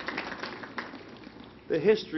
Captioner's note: applause